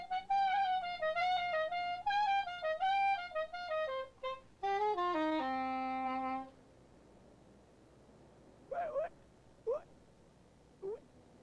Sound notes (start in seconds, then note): 8.7 seal yelping